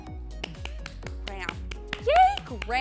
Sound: clapping

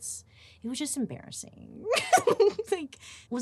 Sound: laughing

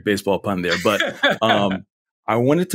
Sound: laughs

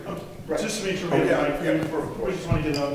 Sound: speaks off microphone

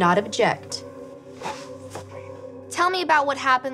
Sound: whispering

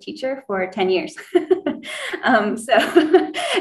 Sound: laughs

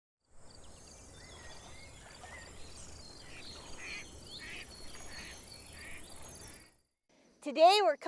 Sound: nature sounds

